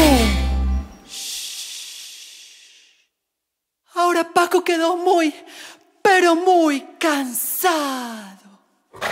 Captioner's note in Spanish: Shhhh